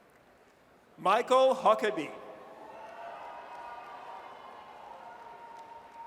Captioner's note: audience cheers